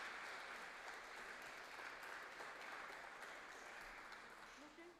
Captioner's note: applause